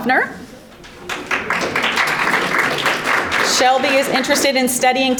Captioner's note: audience applauding